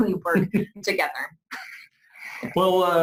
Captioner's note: laughs